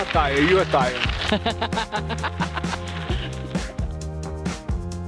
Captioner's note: cameraman laughing; upbeat music continues